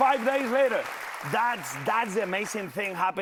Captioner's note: applause